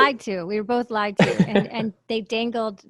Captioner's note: laughs